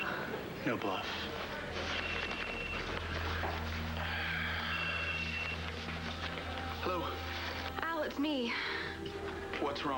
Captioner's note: phone rings